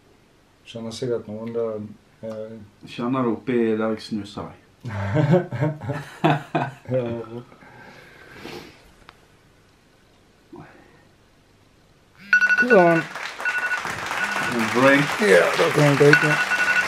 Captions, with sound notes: You probably feel it around -I feel it where I put my snus *laughing* -There -Can I drink? -Yeah, you can drink now